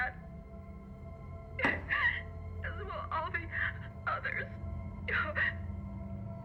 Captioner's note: sobbing